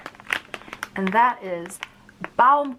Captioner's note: plastic crinkling